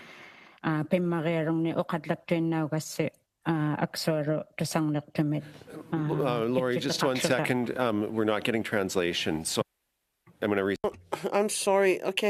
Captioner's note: speaking Indigenous Language